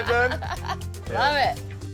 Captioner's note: laughter